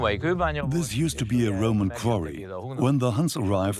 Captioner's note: speaks Hungarian; dubbed in English